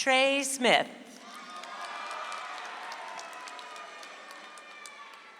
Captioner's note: audience applauds